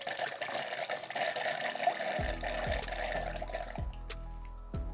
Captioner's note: water gurgles